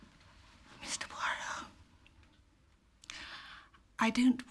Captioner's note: berbisik